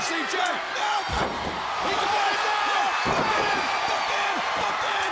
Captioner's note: commentators shouting